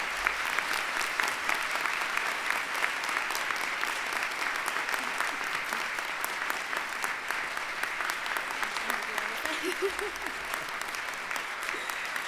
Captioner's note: applause